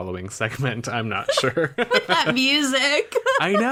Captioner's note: laughs